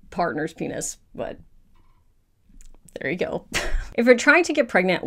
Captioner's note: laughs